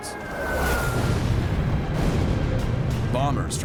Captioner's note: explosions